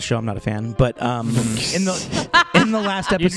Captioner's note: laughter